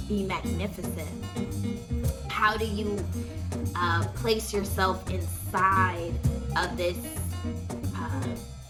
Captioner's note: ughh